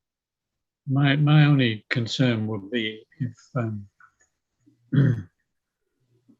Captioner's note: clearing throat